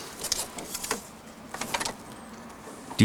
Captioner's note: soft clattering